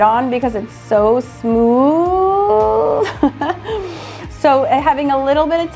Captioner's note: laughs